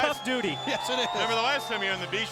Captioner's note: laugh